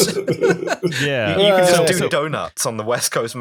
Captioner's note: laughter